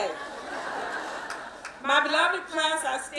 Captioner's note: laughing